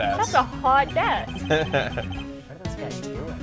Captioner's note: laughs